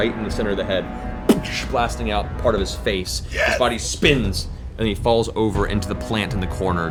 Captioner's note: gunshot; impact noise